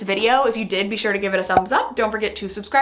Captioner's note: image pops